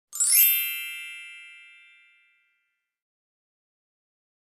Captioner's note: chiming